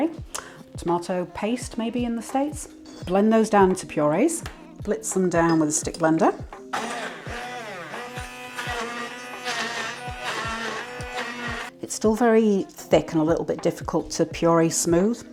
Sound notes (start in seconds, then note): 6.7 blender whirring